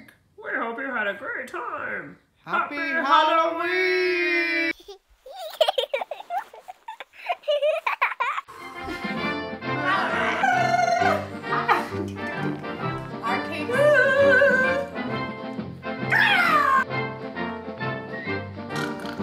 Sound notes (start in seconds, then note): 5.2 laughing; 8.5 bright music; 9.9 trills; 13.9 vocalizing; 16.1 screams; 18.7 snorting